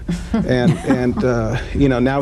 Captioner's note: laughter